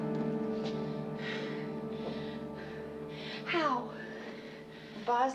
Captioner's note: breathing heavily